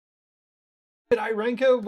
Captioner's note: silence